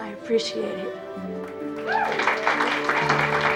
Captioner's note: cheering and applauding